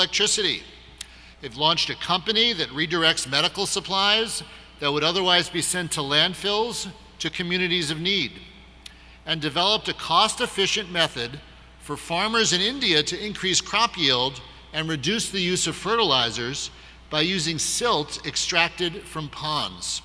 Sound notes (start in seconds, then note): none